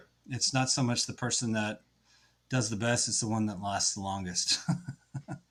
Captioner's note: laughs